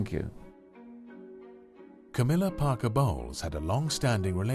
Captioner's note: voiceover